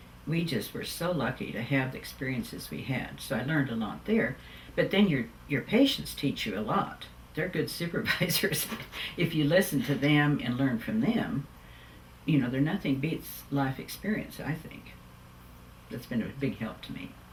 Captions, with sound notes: We just were so lucky to have the experiences we had, so I learned a lot there. Then your patients teach you a lot. They’re good supervisors (Laughs) if you listen to them and learn from them. Nothing beats life experience, I think. That’s been a big help to me.